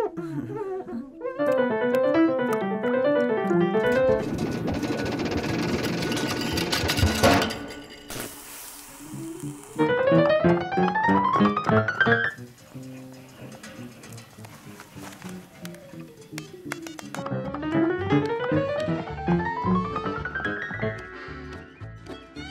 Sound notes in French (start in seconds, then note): 1.2 gammes au piano; 15.4 bips; 17.3 jazz